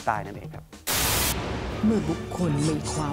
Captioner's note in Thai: เสียงโทรทัศน์